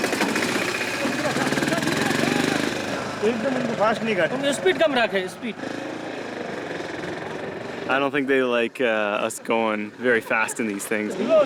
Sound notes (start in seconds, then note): 3.2 in foreign language